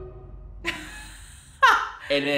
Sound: laughing

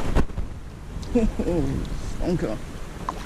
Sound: murmurs of excitement

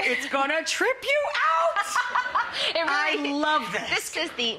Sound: Paige laughs

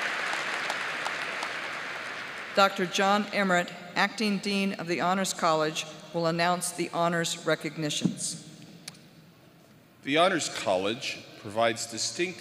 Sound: applause

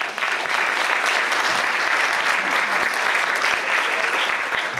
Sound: audience applauds

